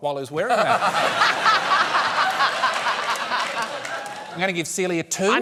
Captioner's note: laughter